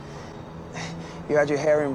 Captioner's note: gasp